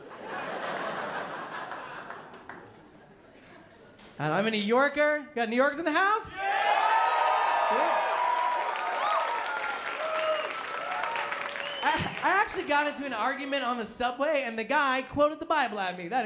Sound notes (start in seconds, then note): 0.0 laughter; 6.3 cheering